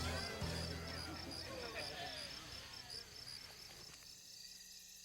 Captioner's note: crickets chirping